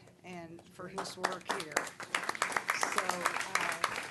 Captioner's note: applause